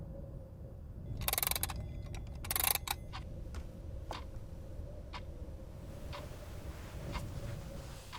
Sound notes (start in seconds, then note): 1.2 clock clattering; 2.0 clock ticking